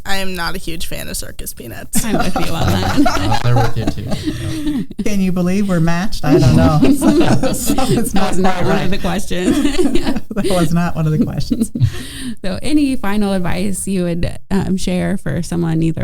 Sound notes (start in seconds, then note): 2.0 everyone chuckling; 9.9 chuckling